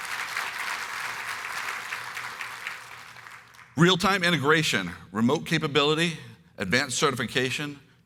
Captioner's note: applause